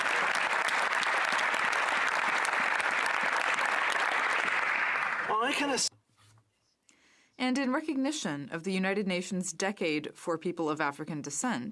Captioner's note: applause